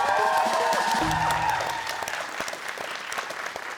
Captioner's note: cheers and applause